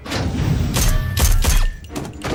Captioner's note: gunfire